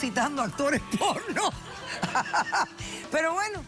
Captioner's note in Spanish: risas